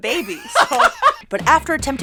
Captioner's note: laughing